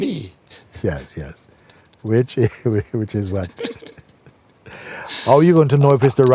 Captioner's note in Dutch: lacht